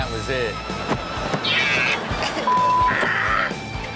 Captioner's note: audience laughs; screaming